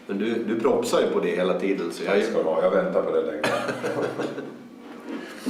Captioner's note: chuckles